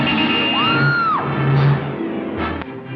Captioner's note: car horn honks; woman screams